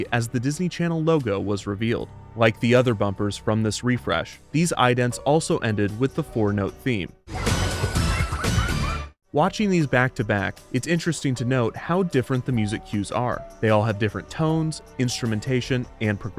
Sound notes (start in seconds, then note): 7.3 children laughing; 7.6 lively upbeat music